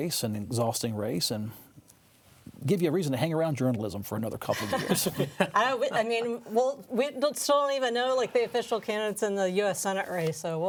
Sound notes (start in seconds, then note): 7.1 panelists laughs